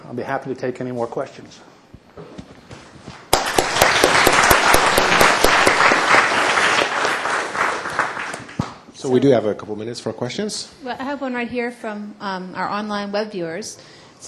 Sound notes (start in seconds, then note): 3.2 applause